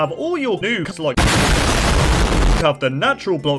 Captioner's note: explosion